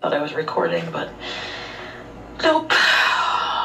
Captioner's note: exhales deeply